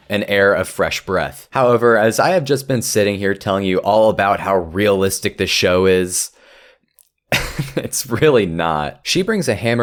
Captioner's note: laughs